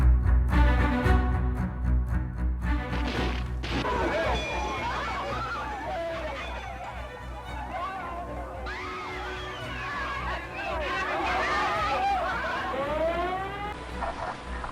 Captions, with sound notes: At about 12:30 p.m., President Kennedy is shot in the neck and head The shots come from a sixth-floor window of the Texas School Book Depository building [People screaming]